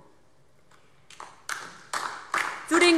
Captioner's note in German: Beifall DIE LINKE